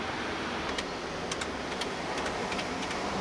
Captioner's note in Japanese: 公衆電話のボタンを押す音